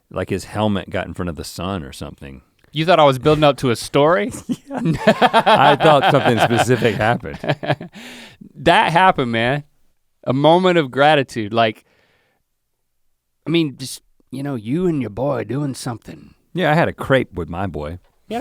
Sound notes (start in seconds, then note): 4.2 Link laughs; 4.2 chuckles